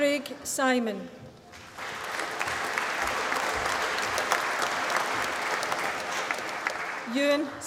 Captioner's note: applause